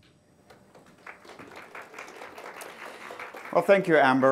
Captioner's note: audience clapping